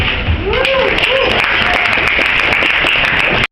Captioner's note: audience applauds